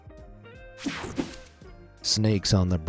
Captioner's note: screen whooshing